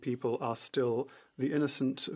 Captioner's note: speaking French